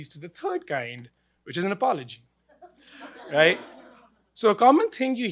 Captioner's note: laughing